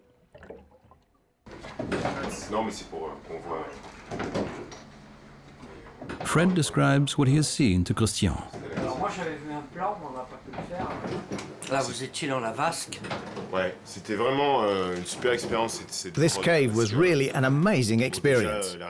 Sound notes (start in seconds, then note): 1.9 speaking French; 8.6 speaking French; 13.4 speaking French